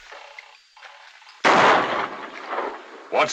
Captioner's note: gunshot